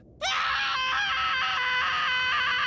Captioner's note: screaming